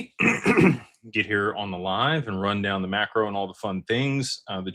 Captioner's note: clears throat and cough